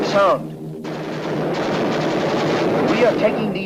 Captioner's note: guns firing